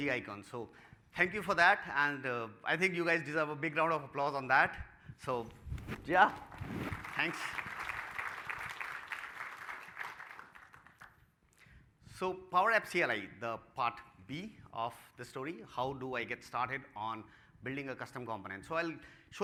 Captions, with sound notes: EMOJI ICONS SO. THANK YOU FOR THAT, AND A BIG ROUND OF APPLAUSE ON THAT. SO YEAH. THANKS. [ APPLAUSE ] >> THE PART B OF THE STORY, HOW DO I GET STARTED ON BUILDING A CUSTOM